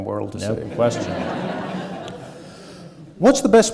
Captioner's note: audience laughing